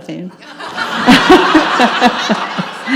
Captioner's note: audience laughs